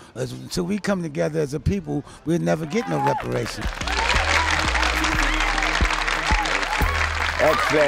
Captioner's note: clapping